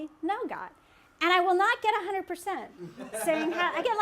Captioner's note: laughter